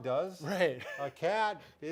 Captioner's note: chuckles